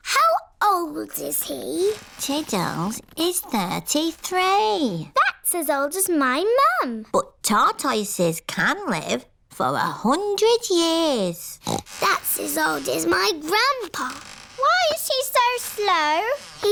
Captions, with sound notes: How old is he? Tiddles is 33. That's as old as my mum! But tortoises can live for 100 years! (SNORTS) That's as old as my Grandpa! Why is he so slow?